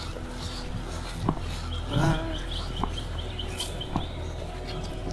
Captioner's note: birds chirping